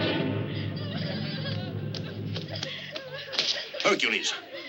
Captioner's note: muffled cries